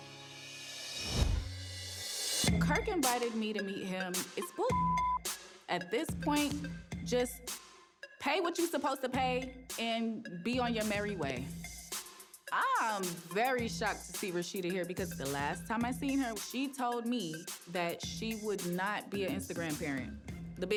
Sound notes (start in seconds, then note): 0.0 tense music; 4.1 beep